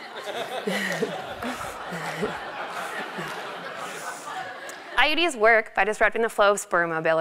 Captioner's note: laugh